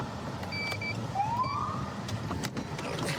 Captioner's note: siren chirps